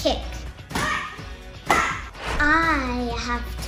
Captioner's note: Vivien shouts